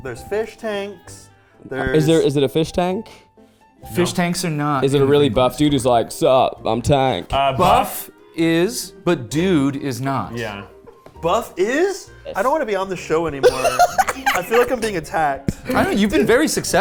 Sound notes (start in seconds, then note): 13.4 chuckling; 13.4 laughing